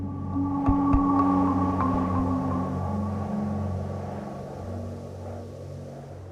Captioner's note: light music; wind whistling